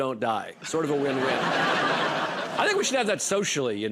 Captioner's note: laughter